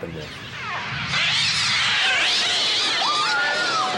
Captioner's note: birds screeching; women screaming